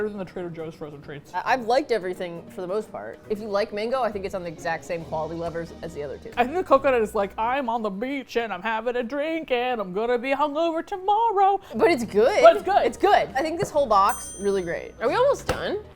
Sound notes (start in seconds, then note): 7.5 singsong